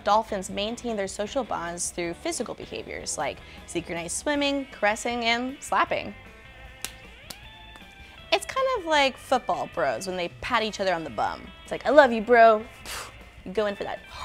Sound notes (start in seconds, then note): 6.8 hands slapping